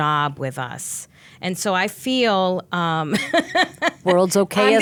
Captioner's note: laughing